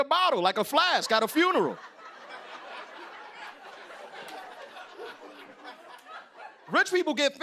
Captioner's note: laughter